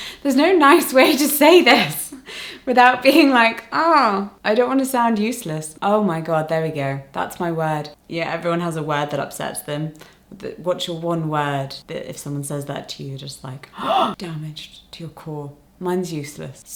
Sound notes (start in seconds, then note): 13.7 gasps